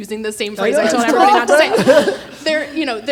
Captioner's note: laughs